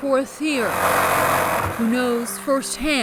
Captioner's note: tool loudly whirring